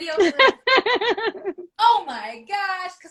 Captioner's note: laughing